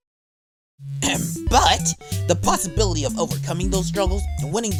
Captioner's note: ahem!